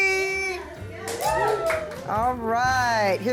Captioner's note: group cheers